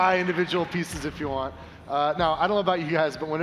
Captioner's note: applause